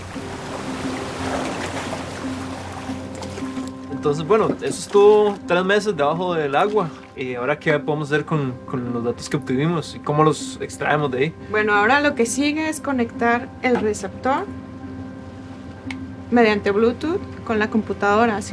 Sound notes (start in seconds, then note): 0.0 water spattering; 0.0 waves crashing; 4.0 speaking Spanish